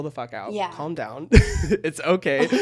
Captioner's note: chuckles